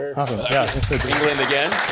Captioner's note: applause